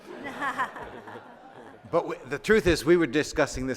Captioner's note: audience laughing